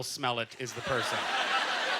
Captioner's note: audience laughter